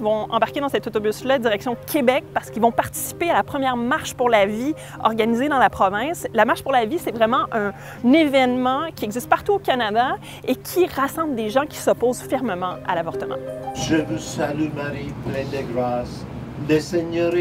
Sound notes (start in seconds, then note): none